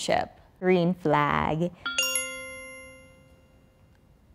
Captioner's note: bell dings